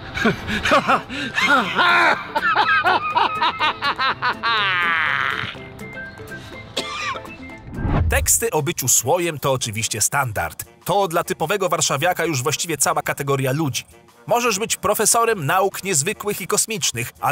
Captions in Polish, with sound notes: Hahahahahahaha! [kaszlnięcie] - Teksty o byciu słojem to oczywiście standard. To dla typowego warszawiaka już właściwie cała kategoria ludzi. Możesz być profesorem nauk niezwykłych i kosmicznych,